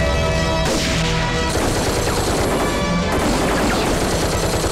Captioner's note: Rapid gunfire